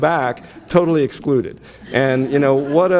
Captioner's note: audience laughs